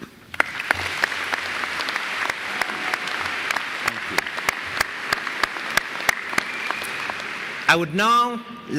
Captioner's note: applause